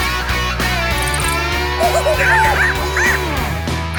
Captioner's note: squeaking